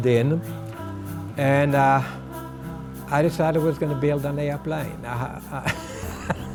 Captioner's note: laughs